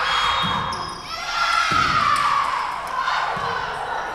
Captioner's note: whistle blowing